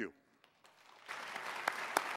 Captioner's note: applause